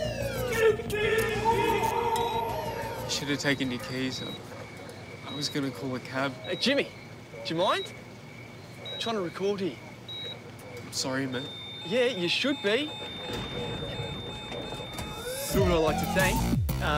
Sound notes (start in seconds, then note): 13.5 monitors buzz and beep rapidly